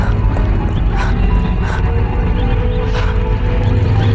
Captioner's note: woman panting